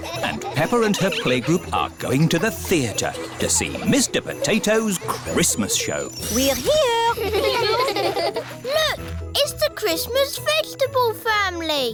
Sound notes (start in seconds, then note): 6.6 children giggling